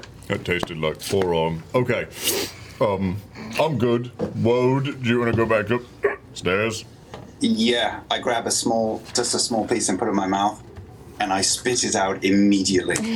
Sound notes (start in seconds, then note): 6.0 hiccups